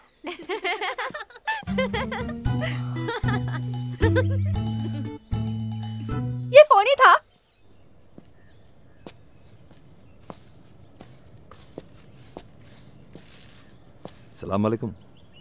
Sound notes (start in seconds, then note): 0.2 Laughs; 9.0 Footsteps